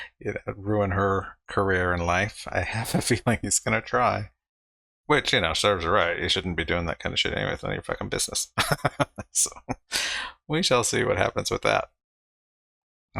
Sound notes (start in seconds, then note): 2.9 chuckling; 8.6 laughing